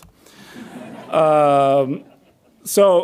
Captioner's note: audience laughs